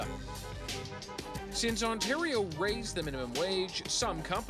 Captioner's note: car horns beeping